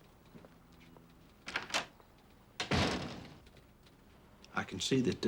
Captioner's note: door opens and closes